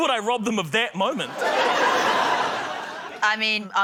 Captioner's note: laughter